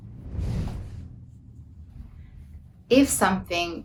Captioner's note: air whooshing